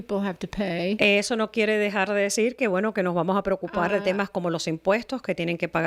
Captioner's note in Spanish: Hablando ingl\s